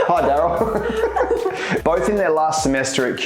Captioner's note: laughing